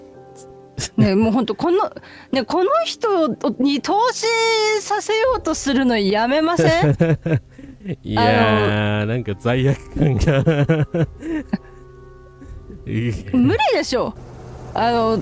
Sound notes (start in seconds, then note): 6.6 laughter